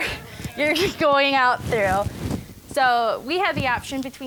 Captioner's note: laughing